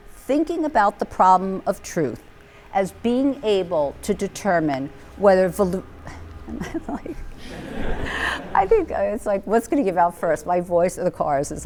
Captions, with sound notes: thinking about the problem of truth as being able to determine whether... [LAUGHTER] What's going to give out first? My voice or the cars.